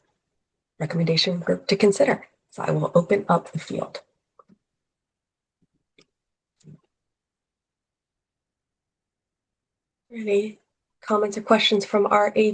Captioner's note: pause